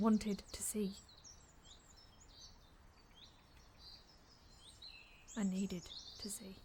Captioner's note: birds continue chirping